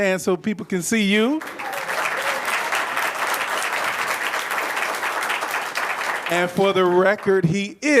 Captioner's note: applause